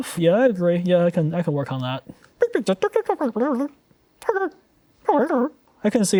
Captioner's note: Pengu indistinct chattering